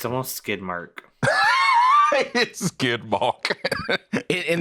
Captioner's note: laughs